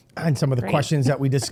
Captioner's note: laughing